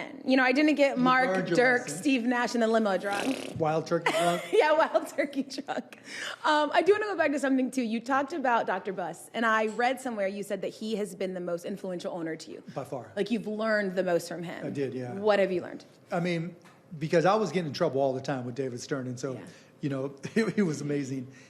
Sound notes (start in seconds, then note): 3.0 blowing raspberry; 4.2 laughing